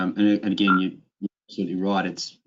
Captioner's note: electronic tone beeping